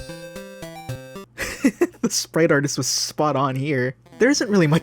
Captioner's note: laugh